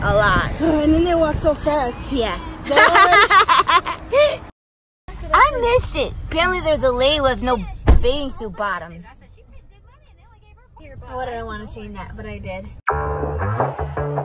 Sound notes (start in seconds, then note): 2.7 laughing; 12.8 rock music plays